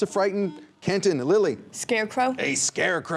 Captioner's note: buzzer